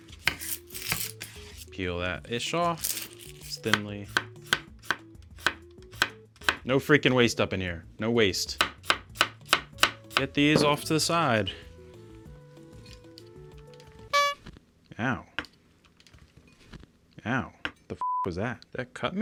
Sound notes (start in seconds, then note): 0.1 knife chopping; 5.8 knife chopping; 8.5 knife chopping; 12.0 gentle music; 14.1 horn honks